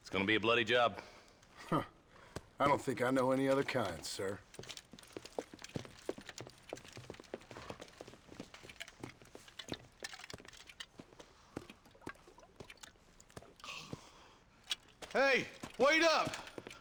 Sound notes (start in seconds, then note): 1.6 laugh